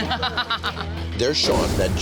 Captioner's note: guest laughing